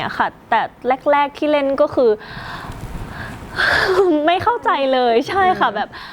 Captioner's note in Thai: ถอนหายใจ